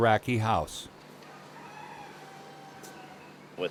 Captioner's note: rooster crows